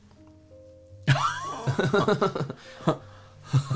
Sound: mischievous Laugh

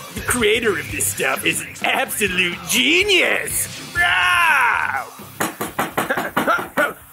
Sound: knocking at front door

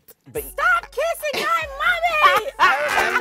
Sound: mimicking childlike voice; both laughing

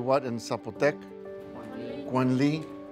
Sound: speaking in Zapotec

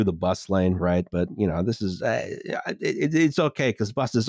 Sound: stammers

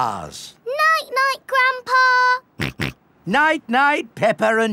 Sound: snorts

